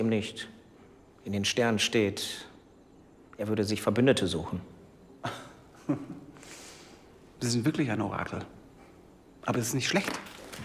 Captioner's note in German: gelächter